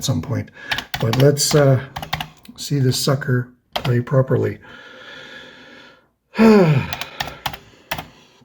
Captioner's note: sighs